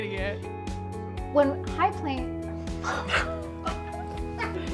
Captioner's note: laughs